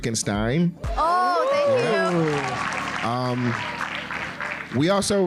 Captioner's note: applause